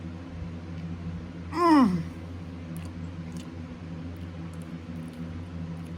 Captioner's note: pleasantly groans